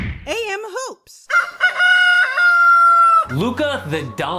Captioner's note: rooster crows